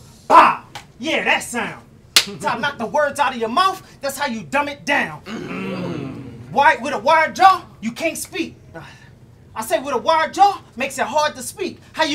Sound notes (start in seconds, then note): 5.2 audience groans